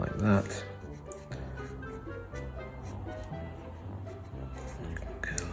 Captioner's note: pencil stroking on paper